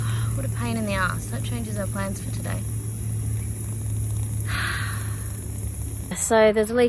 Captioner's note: hissing and bubbling continues; loud sigh